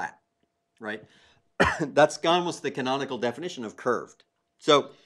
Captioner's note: cough